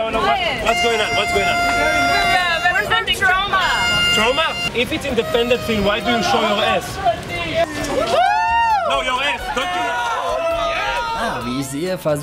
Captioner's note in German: Applaus